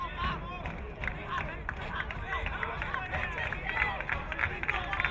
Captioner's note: crowd cheering